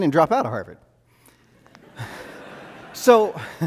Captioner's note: audience laughs